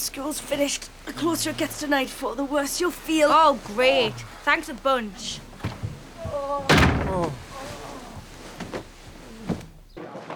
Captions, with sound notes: Come home soon as school's finished. Closer to nightfall, the worse you feel. Oh great, thanks a bunch. -[parents groaning] -[door slams]